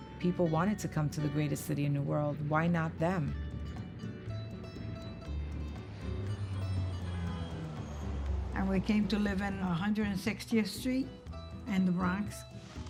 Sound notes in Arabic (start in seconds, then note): 3.3 موسيقى لطيفة ومبهجة; 6.4 أصوات أبواق السيارات